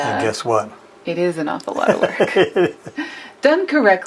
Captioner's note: man laughs